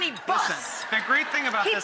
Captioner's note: audience laughing